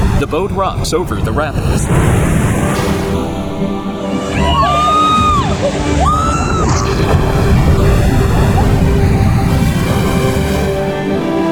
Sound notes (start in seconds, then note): 4.2 cheering; 7.2 water churning